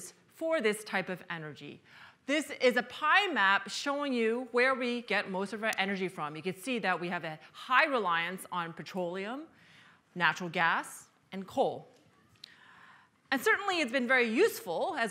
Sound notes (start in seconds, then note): none